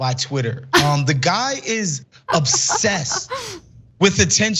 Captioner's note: laugh